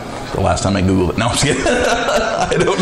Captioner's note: laughing